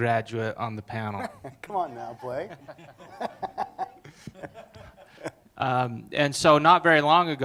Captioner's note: laughing